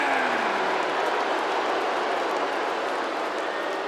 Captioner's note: crowd booing